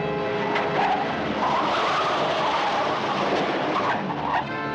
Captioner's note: tires screech